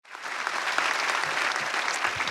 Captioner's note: applause